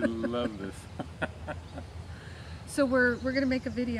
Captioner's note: laughs